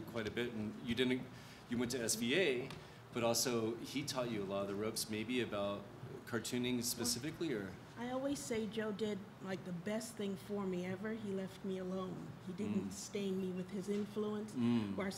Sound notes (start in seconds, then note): none